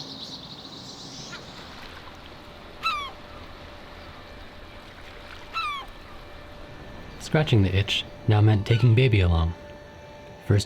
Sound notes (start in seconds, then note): 1.7 gull cawing; 2.1 light music